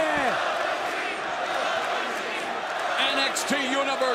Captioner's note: crowd cheering